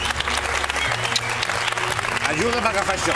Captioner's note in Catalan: aplaudiments